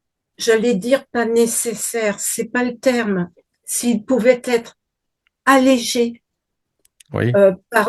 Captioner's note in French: grognement